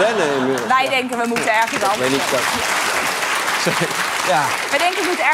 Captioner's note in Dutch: applaus